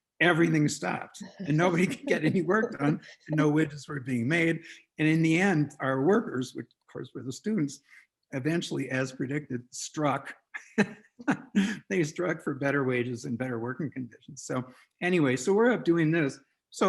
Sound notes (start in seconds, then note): 11.2 laughs